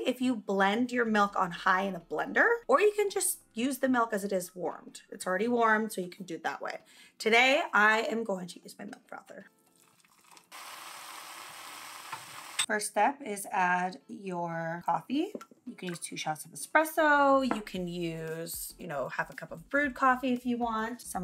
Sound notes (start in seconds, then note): 9.6 milk sizzling